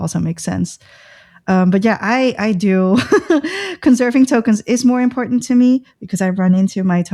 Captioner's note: laughter